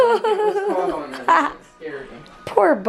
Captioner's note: laughing